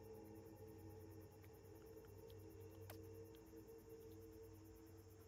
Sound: lips smacking softly

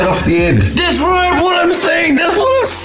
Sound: laughing

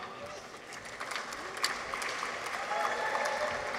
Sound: audience applauds

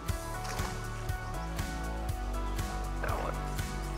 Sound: fish splashes

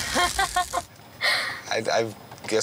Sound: laughing

